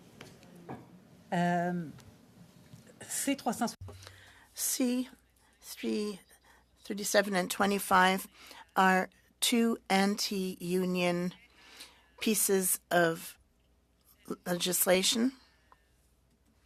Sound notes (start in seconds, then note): 7.9 speaking French